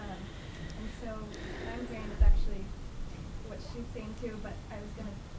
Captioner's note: voice muffled